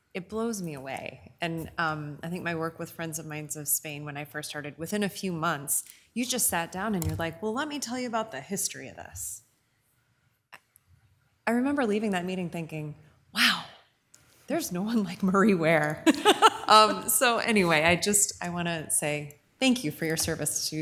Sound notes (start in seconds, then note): 16.0 laughs